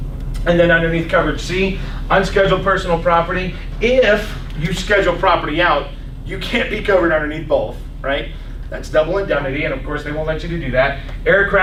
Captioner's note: coughs